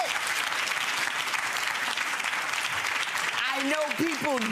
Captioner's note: audience clapping